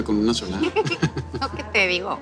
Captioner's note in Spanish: Risas